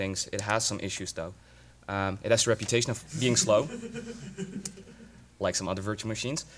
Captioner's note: laughter